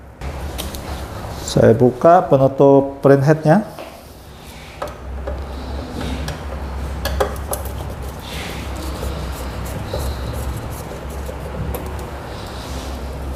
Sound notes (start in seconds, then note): 4.2 screwdriver noise